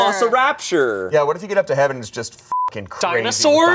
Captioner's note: beep